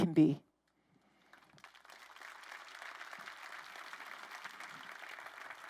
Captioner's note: crowd applauding